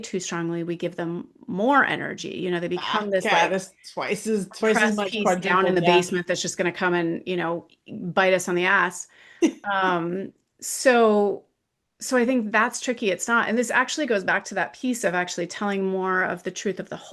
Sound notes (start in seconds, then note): 9.1 laughs